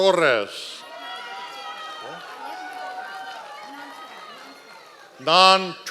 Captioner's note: members of the audience cheering